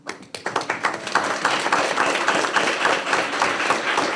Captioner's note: applause